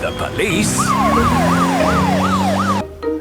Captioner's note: siren wailing